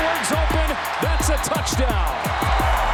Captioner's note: whistle blows; crowd cheers